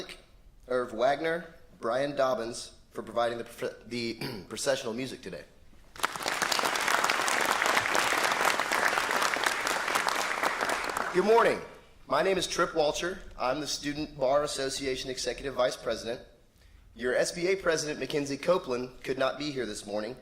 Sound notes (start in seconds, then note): 5.9 applause